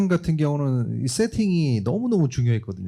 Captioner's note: speaking korean